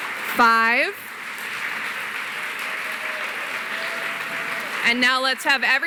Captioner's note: cheering, applause